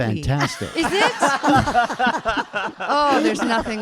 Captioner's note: audience laughing